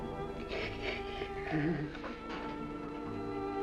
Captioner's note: sobs